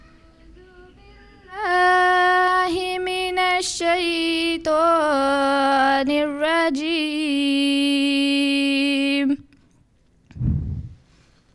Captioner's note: Arabic recitation of the Holy Qur’an